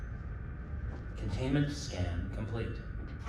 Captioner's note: computer voice